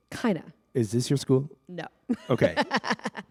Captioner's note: laughter